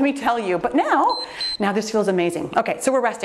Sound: timer beeps

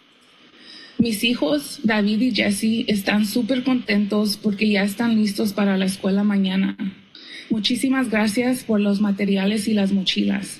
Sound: foreign language

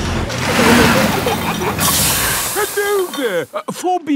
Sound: peppa and george giggling; air hisses

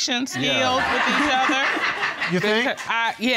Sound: audience laughing

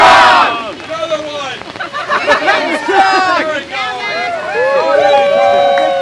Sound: laughter

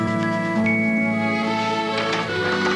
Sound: door opens

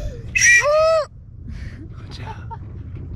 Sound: whistle blowing

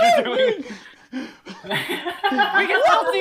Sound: laughing

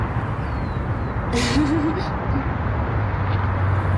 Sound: laughs

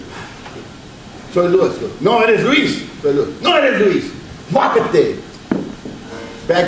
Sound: speaks Spanish

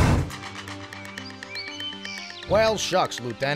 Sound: birds chirp

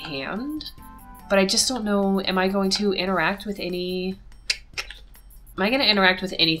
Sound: clicks tongue

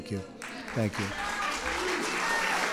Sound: applause

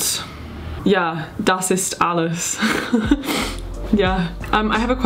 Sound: speaking in foreign language

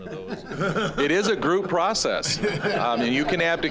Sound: audience laughing

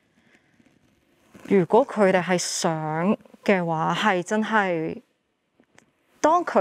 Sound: speaking in foreign language

